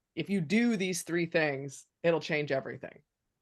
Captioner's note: none